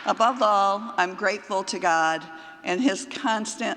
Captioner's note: applause